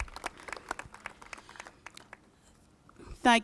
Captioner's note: applauses